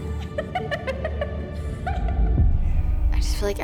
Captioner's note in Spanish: riendo